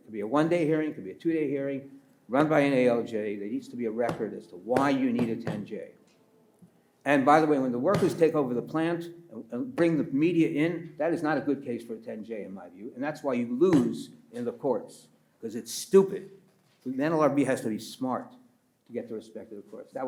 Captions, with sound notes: It could be a one-day hearing, it could be a two-day hearing, run by an ALJ. There needs to be a record (pats table repeatedly) as to why you need a 10J. And by the way, when the (pats table) workers take over the plant and bring the media in, that is not a good case for a 10J, in my view. And that's why you lose (pats table) in the courts 'cause it's stupid. The NLRB has to be smart to get the respect of the courts.